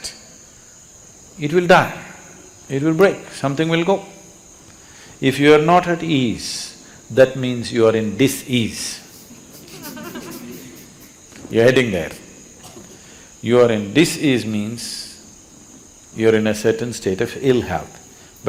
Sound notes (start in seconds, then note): 9.1 laughter